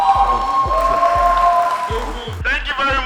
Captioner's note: crowd cheering